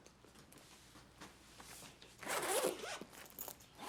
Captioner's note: unzips